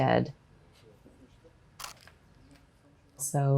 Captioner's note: camera clicking